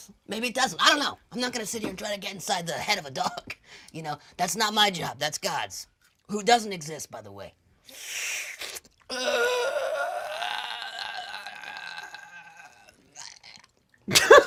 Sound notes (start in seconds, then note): 9.0 groans